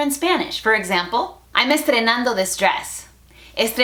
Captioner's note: Spanglish